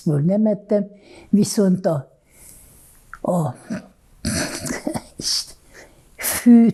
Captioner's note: laughing